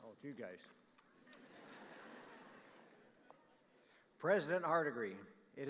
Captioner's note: audience laughing